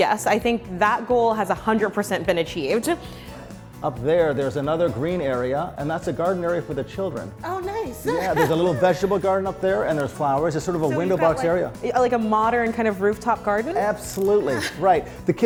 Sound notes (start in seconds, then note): 8.0 chuckles loudly